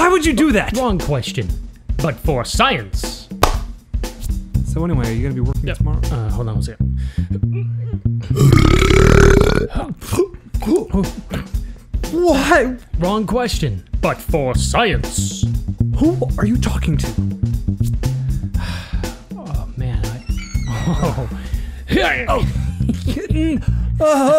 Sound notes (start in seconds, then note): 8.2 belch; 11.6 gasp; 20.7 mischevious laugh